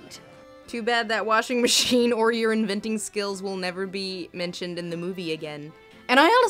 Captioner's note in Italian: voce fuori campo